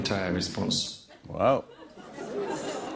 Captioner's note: light laughter